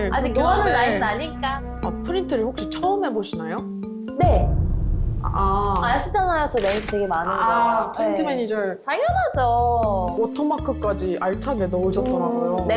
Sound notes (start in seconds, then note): 4.2 confident sound effect; 6.4 had lots of people to order around sound effect